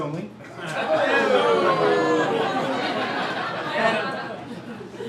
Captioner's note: crowd ooh-ing